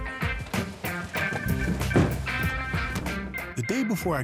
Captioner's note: meat thuds